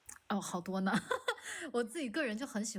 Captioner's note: laughs